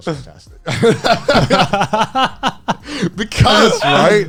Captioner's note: men laugh